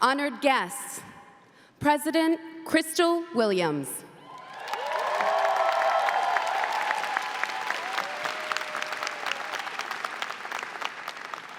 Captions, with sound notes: - Honored guests, President Crystal Williams. (audience clapping) (audience cheering)